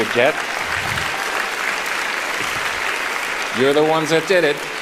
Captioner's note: applauding